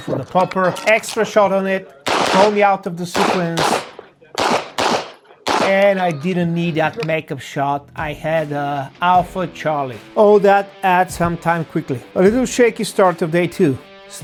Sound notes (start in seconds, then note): 4.3 gunshots banging